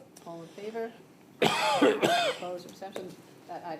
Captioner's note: coughs